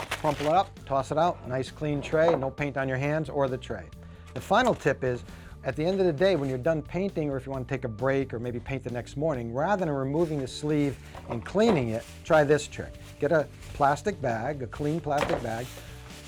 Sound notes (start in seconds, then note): none